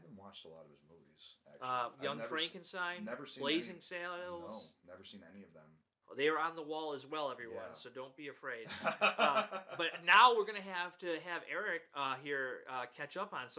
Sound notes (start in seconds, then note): 8.6 laughs